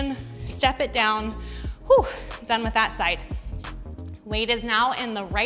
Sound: exhaling sharply

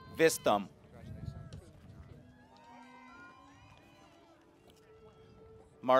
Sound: cheering

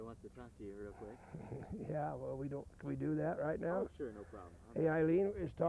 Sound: chuckles

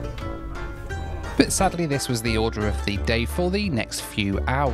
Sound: voiceover

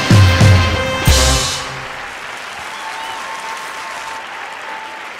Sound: cheering and applause

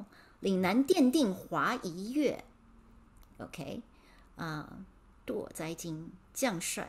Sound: speaking in Mandarin

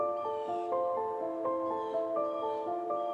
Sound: gentle upbeat music; birds chirping; gentle upbeat music

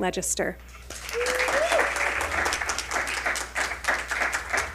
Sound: audience cheering

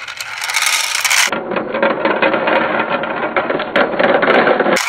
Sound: voiceover; beans clattering

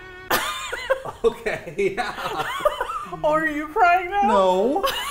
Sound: laughs; laughs in shock

